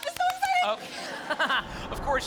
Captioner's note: laughter